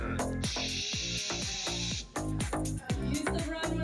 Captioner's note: model imitates trilling sound; model imitates swooshing sound